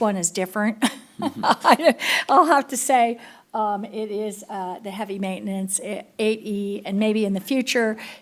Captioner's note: laughter